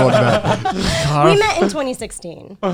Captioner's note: all laughing